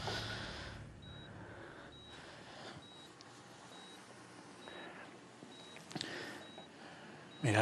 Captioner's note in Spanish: sonido del monitor